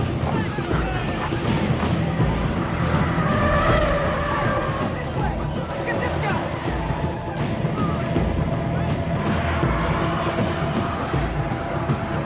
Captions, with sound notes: (tires screeching) - This way, get this guy. (tires screeching)